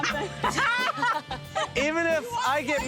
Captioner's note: laughs